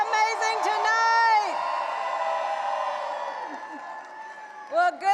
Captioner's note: audience cheering and applauding